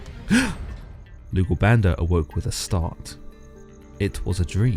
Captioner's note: gasp